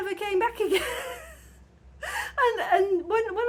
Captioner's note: laughing